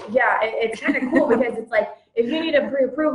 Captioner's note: laughs